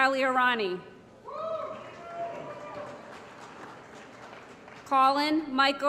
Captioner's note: applause & Cheering